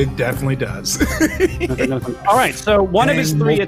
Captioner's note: laughs